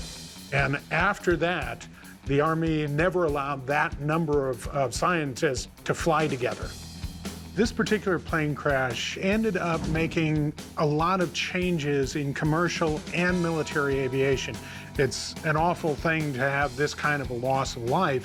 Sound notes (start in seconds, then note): none